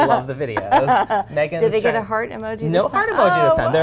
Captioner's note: laughs